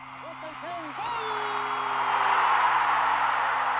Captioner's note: crowd cheers